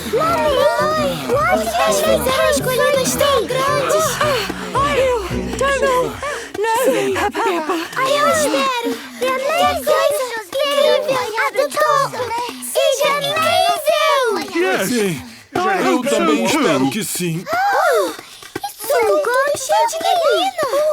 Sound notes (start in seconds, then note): 4.1 panting